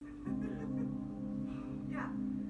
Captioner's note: bleak music; distant giggling